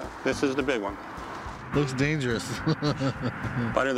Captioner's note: chuckles